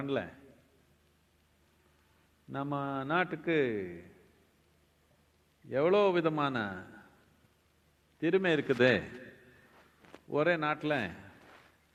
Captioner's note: speaks in Tamil – not transcribed